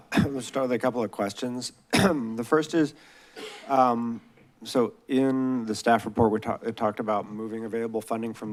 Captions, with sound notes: - Let's start with a couple of questions. [clears throat] The first is... so in the staff report, we talked about moving available funding